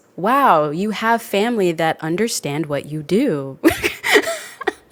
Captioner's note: laughs